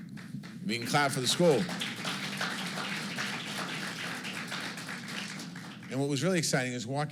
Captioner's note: applause